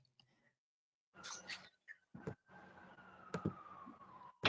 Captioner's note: siren wailing